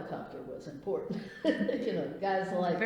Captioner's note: laughs